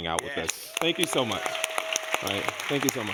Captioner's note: people clapping and cheering